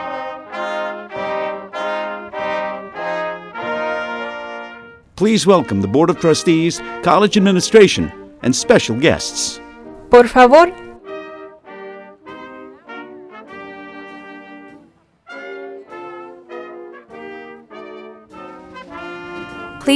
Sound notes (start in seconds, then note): 9.9 speaking spanish; 11.0 band playing